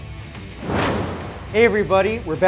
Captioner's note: whoosh